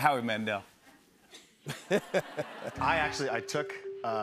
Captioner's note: laughter